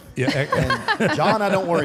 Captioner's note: group laughs